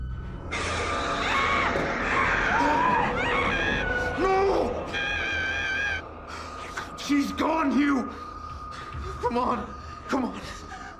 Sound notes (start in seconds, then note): 0.6 screaming; 0.8 frightening music